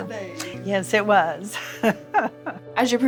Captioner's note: laughing